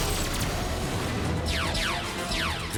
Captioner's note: laser blasts